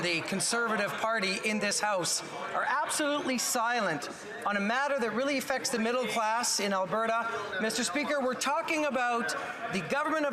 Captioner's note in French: voix de l'interprète